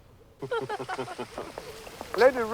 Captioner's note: all chuckling